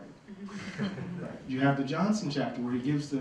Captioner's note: laughter